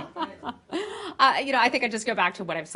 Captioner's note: laughter